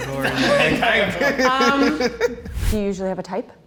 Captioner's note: chuckles